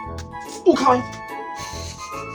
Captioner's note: laughs